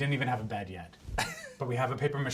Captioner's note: laughs